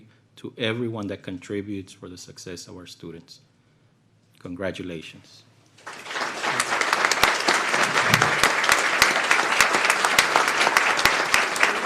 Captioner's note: applause